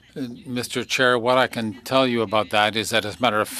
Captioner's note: speaking French